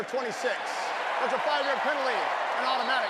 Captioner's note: cheering